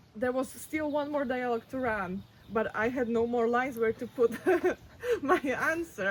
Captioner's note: laughs